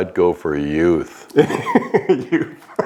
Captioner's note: laughing